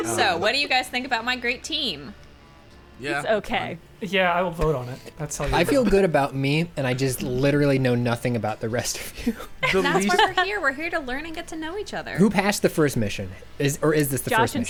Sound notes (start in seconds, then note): 5.7 pat; 12.3 pat